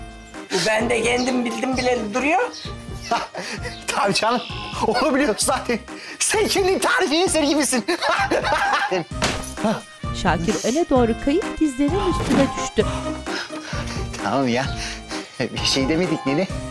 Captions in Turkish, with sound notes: Bu bende kendimi bildim bileli duruyor. Tabii canım, onu biliyoruz zaten. Sen kendin tarifi eser gibisin. (Gülme sesi) Tamam ya, bir şey demedik nene.